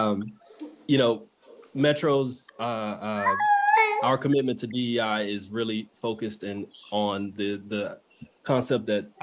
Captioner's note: laugh